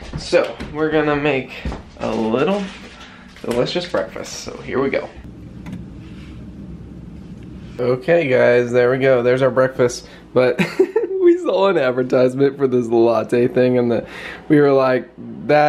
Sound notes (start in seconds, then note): 10.6 chuckling